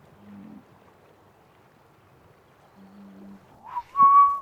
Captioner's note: cows grunting